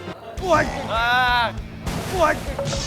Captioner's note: sounds of panic